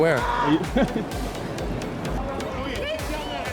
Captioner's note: interviewer laughs